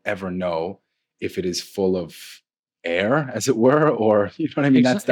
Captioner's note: laughs